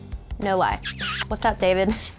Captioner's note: kissing noise